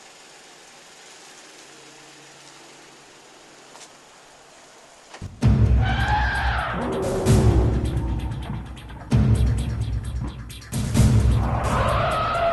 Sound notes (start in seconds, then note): 0.1 engine; 4.2 monstrous screech; 8.3 roar